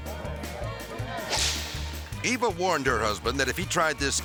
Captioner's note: lively country music; whip cracks